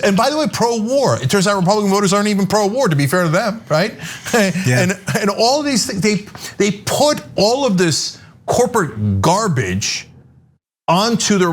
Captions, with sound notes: And by the way, pro-war, it turns out Republican voters aren't even pro-war, to be fair to them, right? >> Yeah, >> [LAUGH] And all these things, they put all of this corporate garbage onto the Republican party,